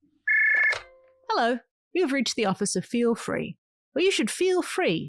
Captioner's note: phone rings. pick up